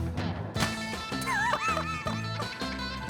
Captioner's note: laughs